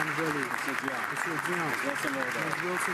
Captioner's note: some Applause